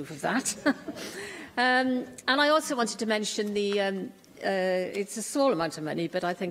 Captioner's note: laughter